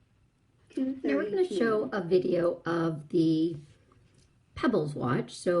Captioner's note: voiceover